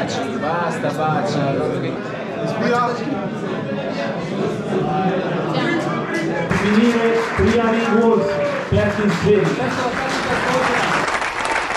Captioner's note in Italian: Applauso